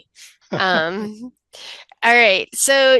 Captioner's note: chuckles